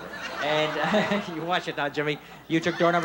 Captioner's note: laughing